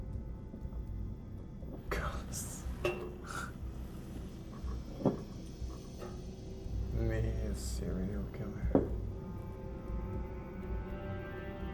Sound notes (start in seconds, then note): 4.5 laughs; 8.7 foreboding music